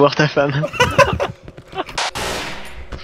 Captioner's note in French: Rire